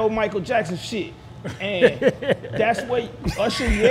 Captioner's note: laughing